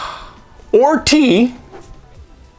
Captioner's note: whoosh